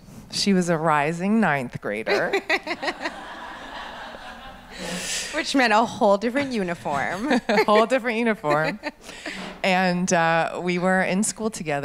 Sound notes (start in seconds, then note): 2.1 audience laughs; 2.1 laughs